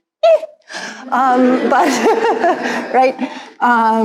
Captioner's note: all laugh